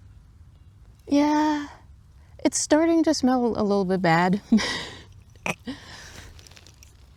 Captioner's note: laughs, jar clinks closed